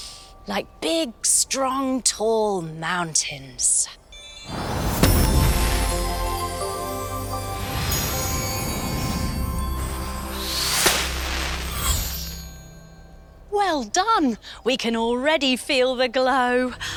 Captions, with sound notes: Like big, strong, tall mountains. [Magical whoosh] Well done! We can already feel the glow.